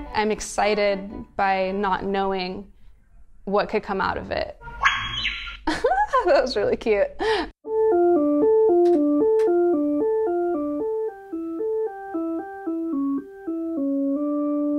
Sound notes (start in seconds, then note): 4.8 high squeal; 5.6 laughs